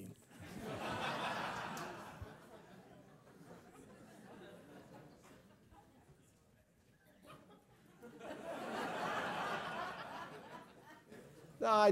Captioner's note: laugh